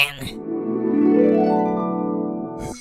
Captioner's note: flashback sound